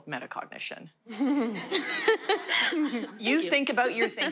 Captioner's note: laughter